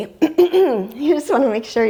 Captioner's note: clears throat